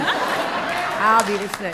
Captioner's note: laughter